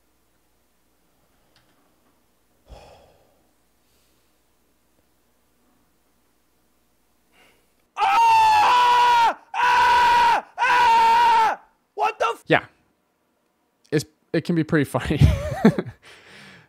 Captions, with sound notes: (sighs) (screams) What the f- Yeah. It can be pretty funny. (laughs)